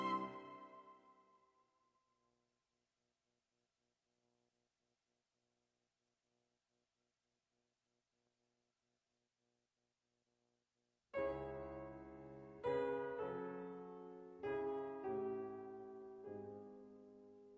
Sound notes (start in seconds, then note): none